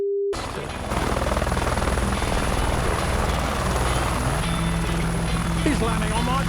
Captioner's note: helicopter engine whirring; upbeat music